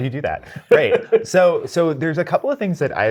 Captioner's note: guy laughs